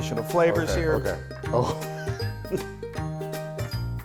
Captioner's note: laughs